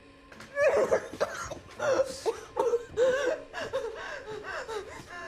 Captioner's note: Maria coughing